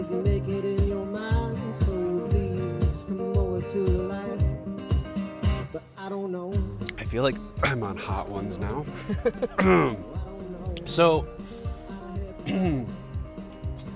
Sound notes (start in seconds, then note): 6.7 coughing; 8.8 laughing; 12.4 throat clearing